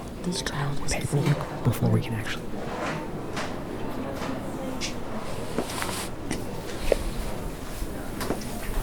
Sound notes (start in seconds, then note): 4.8 footsteps approaching